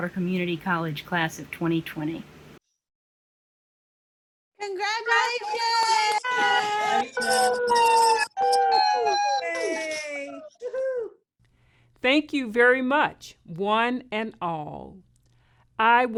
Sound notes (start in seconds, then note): 2.7 cheering